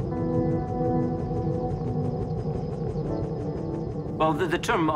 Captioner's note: helicopter flying